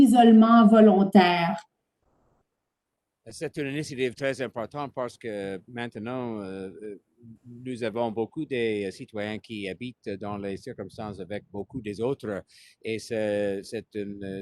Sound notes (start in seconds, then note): 4.8 speaking French